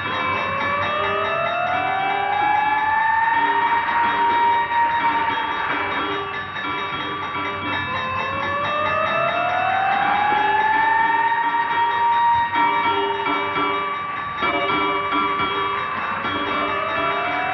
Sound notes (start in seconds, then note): 2.4 sirens Wailing